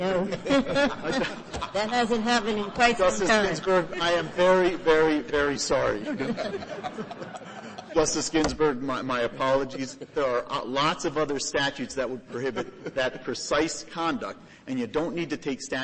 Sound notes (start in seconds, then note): 2.8 laughter; 5.8 laughter